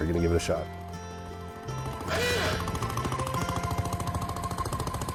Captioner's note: motor thrumps